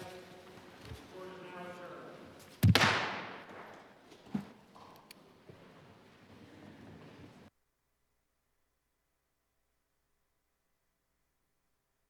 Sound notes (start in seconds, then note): 4.3 gavel